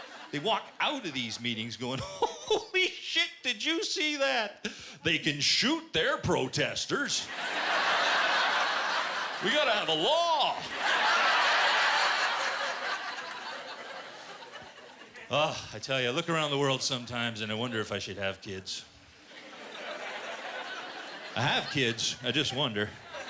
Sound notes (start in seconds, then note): 7.2 laughter; 22.8 laughter